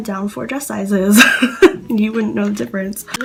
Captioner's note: laugh